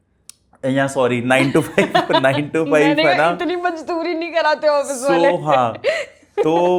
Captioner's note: laughs